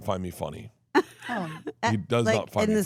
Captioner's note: chuckles